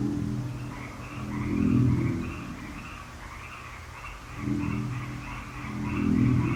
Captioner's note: crickets chirping; ominous music